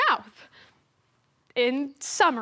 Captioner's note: silence